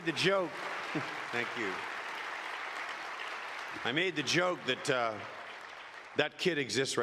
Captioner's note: applause